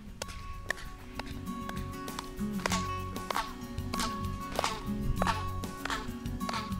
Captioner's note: hand clapping